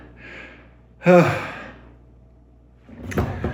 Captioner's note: sighs